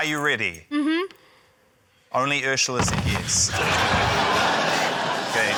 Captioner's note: wall bangs